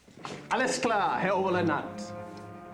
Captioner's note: speaking german